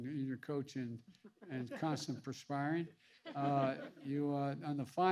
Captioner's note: laughter